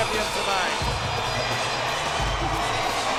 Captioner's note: crowd cheering; upbeat music continues